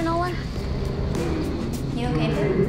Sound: sounds echoing

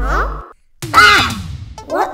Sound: scream

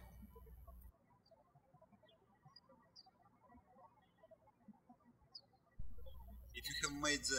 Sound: birds chirping

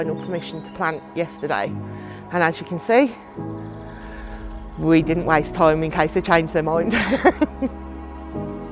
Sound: laughs

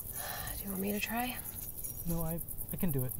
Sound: sighs

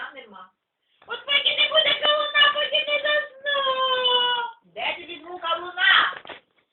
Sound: cry

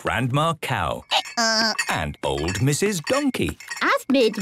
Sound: braying

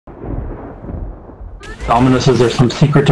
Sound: thunder clap

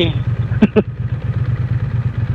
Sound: laughing

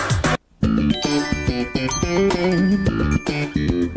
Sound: chimes

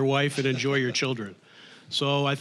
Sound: scattered chuckling

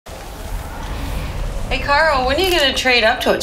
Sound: nature sounds

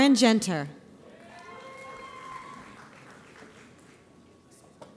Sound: audience applauds

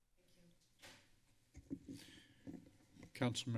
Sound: footsteps

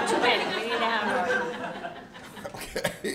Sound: laughter; chuckles

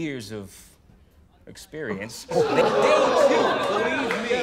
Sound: crowd

